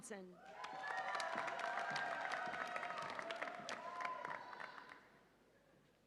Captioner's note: audience applauds and cheers